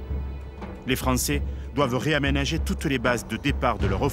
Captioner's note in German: none